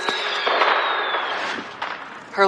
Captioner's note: fireworks booming